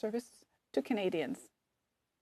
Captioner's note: speaking French